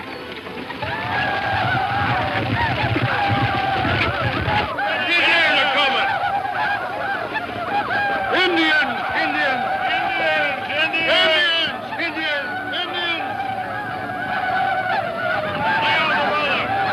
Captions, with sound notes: (Indians shouting) - Indians are coming. Indians! - Indians! - Indians! Indians! - Indians! - Indians! - Indians! (Indians shouting) Get out of the water. Go ahead!